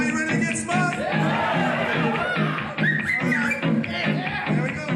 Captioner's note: cheering